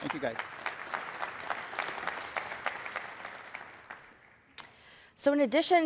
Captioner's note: applause